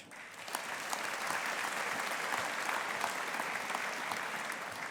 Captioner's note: audience applauding